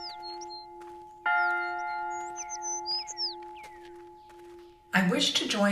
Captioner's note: birds chirping; bell